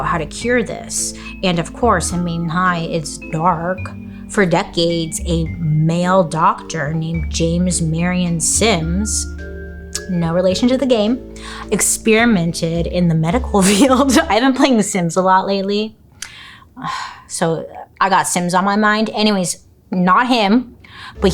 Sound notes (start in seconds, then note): 14.5 laughs; 16.7 sighs